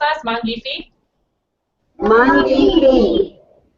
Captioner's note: children in unison